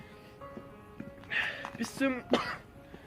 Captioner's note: sighs; coughs